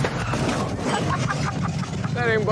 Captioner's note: laughs